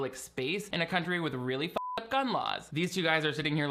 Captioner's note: beep